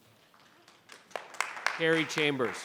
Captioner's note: members clapping